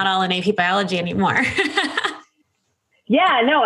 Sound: laughs

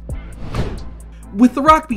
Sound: whooshing

